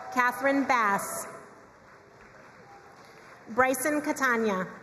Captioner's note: crowd cheering and applauding